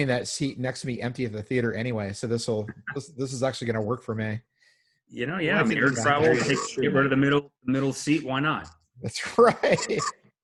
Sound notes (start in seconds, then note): 5.7 audio distorts; 9.4 laughing